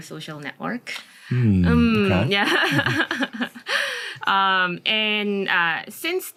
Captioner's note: laughs